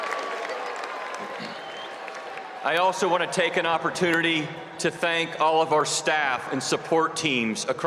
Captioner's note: cheers and applause